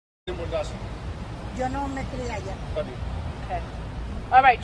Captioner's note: speaking in foreign language